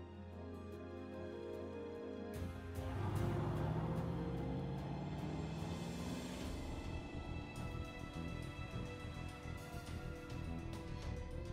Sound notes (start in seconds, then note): 2.4 cars rev; 6.6 dramatic instrumental music